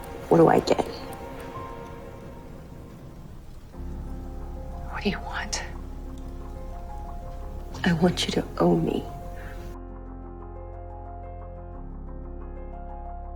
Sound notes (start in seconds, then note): 8.0 voiceover